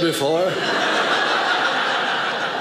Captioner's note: audience laughing